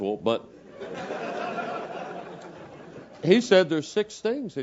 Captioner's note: laugh